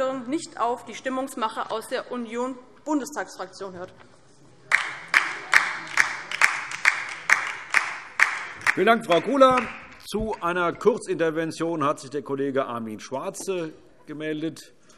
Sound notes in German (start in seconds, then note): 4.7 Beifall DIE LINKE